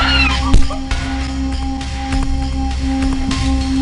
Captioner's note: screaming; thudding; intense music